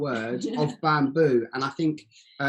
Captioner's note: giggles